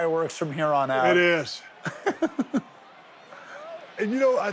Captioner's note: Sami laughing